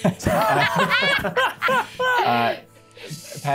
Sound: players laughing

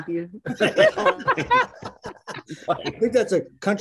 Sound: group laughing

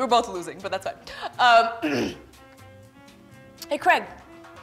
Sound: clears throat

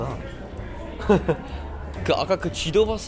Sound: laughing

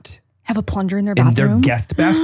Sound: gasps

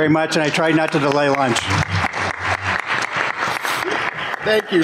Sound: applause

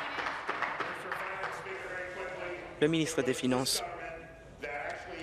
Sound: applause

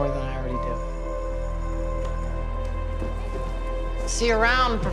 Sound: bell rings

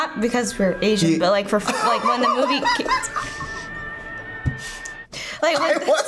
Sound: laughs

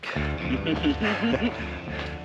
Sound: Ron laughing; upbeat music

